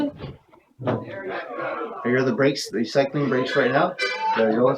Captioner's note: toot, toot